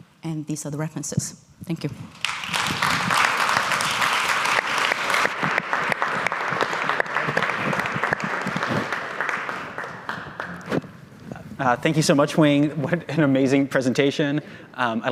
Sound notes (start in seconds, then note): 2.1 audience applauding